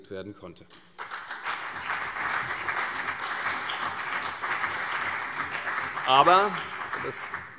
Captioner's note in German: Beifall CDU und BÜNDNIS 90/DIE GRÜNEN